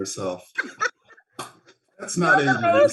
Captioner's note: laughs